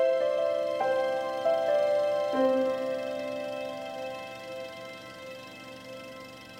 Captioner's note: sound of runnung projector